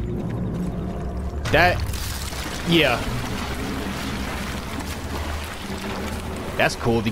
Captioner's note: falling debris